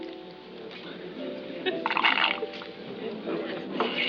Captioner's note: slurps